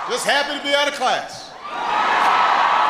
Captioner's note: applause